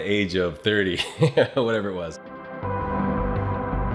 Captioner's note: laughs; soft synth music